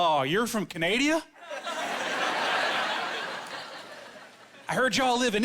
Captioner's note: laughing